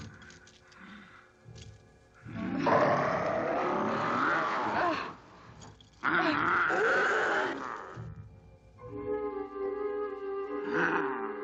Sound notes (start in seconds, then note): 2.8 werewolf snarling